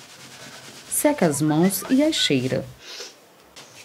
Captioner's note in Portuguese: Sinal sonoro de mensagem no celular